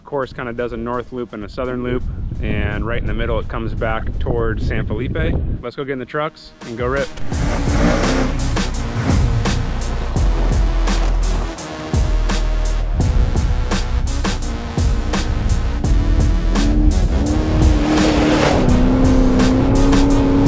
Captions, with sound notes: The course kind of does a north loop and a southern loop and right in the middle, it comes back towards San Felipe. Let's go get in the trucks and go rip. (engine revving) (upbeat hiphop music)